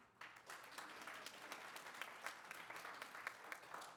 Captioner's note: applause